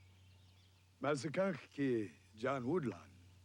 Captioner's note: Tukenbheska speaks Indigenous language